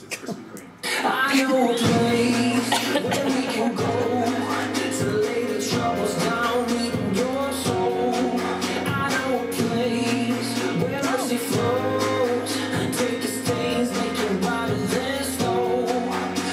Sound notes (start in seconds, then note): 0.0 laughing